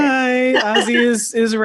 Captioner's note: laughing